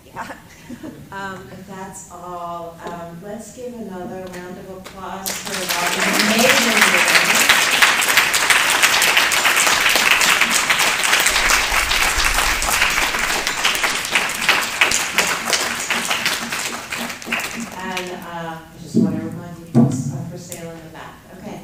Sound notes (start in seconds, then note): 7.4 applause